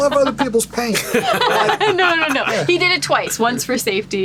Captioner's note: laughing